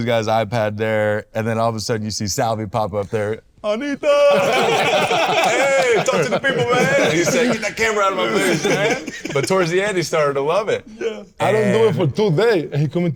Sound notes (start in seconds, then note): 4.1 all laughing